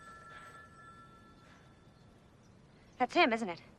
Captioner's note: phone rings